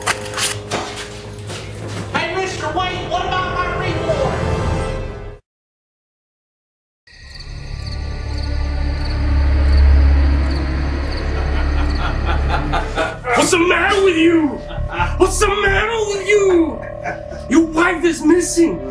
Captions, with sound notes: Hey mister, wait. What about my reward? (Crickets chirping) (Sinister music) (Larry laughing) - What's the matter with you? What's the matter with you? Your wife is missing.